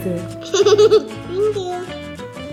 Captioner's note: giggles